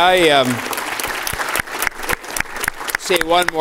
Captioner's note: applause